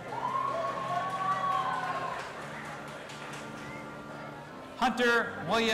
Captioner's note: audience applauding and cheering